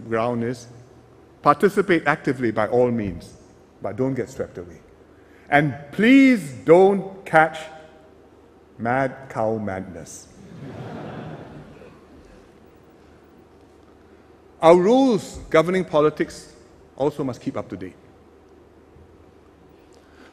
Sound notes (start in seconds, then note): 10.4 laughter